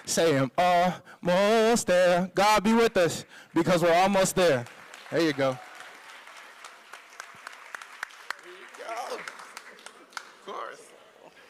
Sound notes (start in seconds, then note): 0.2 singing; 6.3 applause